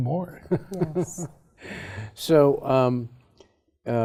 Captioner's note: laughs